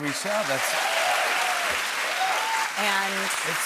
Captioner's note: cheers and applause